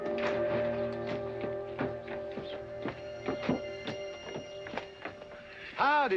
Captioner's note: footsteps down stairs